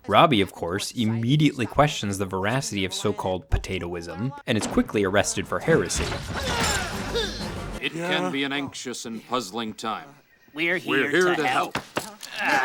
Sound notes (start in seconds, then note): 5.4 dramatic music; 6.2 door crashing